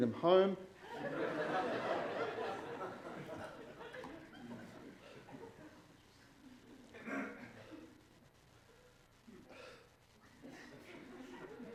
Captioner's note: laughter